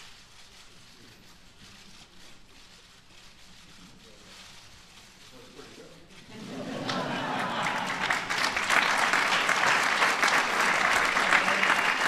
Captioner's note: applause